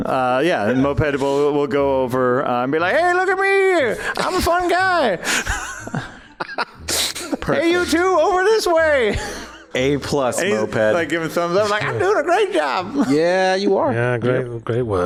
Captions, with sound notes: Yeah, and Moped will go over and be like: HEY, LOOK AT ME, I'M A FUN GUY. [Laughs] HEY, YOU TWO, OVER THIS WAY. - A plus Moped. - Like giving thumbs up, like I'm doing a great job. - Yeah, you are. - Yeah, great work.